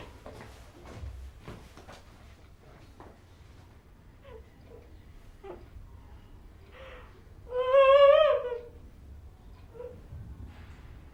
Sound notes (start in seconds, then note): 3.9 sobbing; 7.4 wailing